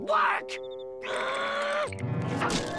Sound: growls

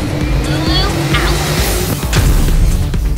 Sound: loud hyperspace rocket thruster whoosh!

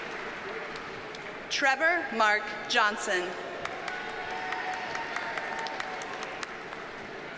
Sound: audience cheers and applauds

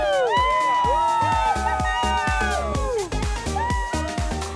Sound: crowd Cheering; upbeat music

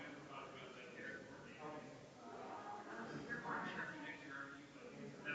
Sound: people chattering distantly continues

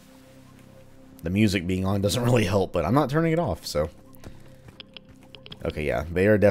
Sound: chuckles

